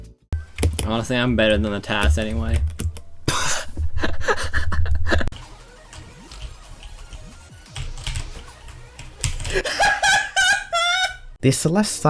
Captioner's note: laughter; maniacal laughter